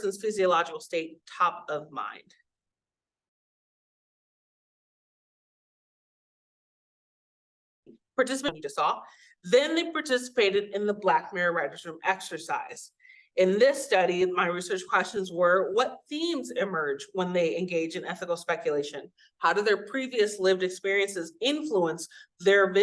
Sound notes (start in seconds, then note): 2.8 audio cuts out